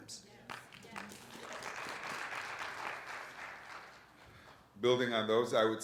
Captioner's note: audience applauds